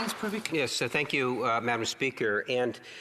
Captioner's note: some Applause